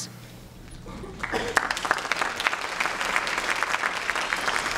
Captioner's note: applause